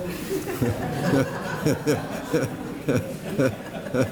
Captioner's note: laughter